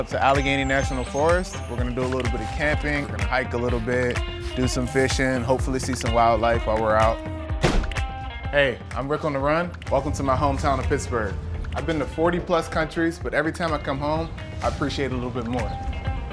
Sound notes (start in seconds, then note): 0.0 birds chirping; 7.6 trunk slams